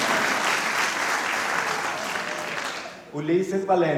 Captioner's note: applause